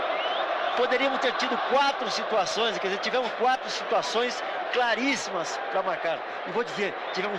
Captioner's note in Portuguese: aplausos